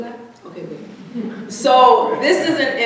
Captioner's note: audience chuckling